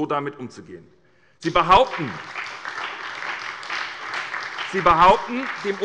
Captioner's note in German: Beifall bei der SPD und der FDP